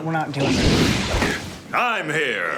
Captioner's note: whooshing sound